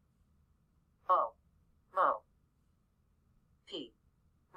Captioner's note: computer voice